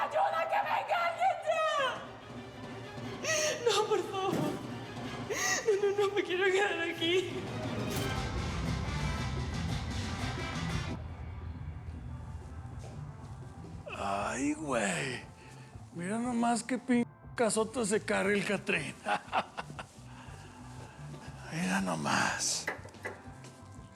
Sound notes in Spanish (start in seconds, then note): 18.9 risas